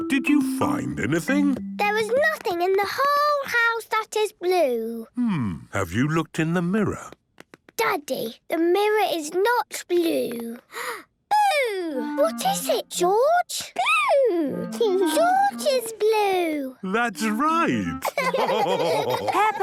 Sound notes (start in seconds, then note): 10.7 gasps